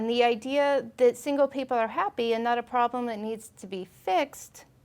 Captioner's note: none